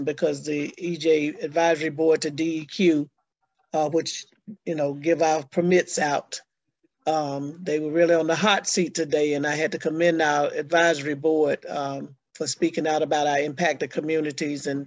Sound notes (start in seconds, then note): none